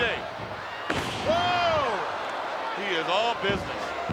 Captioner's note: audience cheers